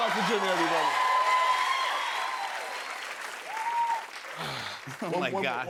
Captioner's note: cheers and applause